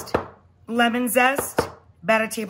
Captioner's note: knife taps